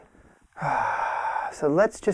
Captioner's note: sighing